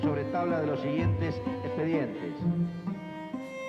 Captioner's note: speaking Spanish